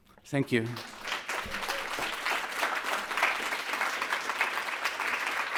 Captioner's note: audience clapping